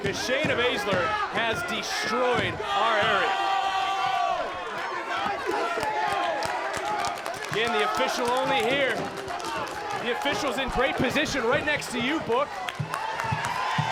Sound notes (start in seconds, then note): 2.6 audience exclaiming; 13.6 audience cheering